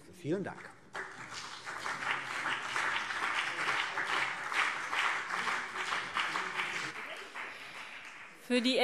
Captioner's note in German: Beifall CDU und BÜNDNIS 90/DIE GRÜNEN